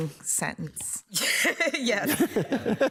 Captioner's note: laughing; justice laughing